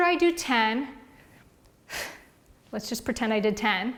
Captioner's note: exhales loudly